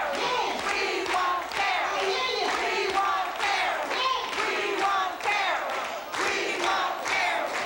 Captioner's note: people chanting repeatedly